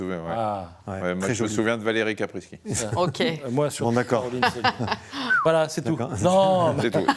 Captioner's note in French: rires